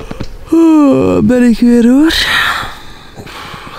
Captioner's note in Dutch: Yawning